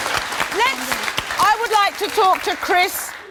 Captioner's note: audience applauding